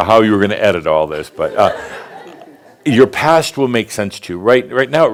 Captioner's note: more chuckles; more laughter